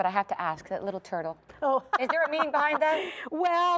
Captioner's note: laugher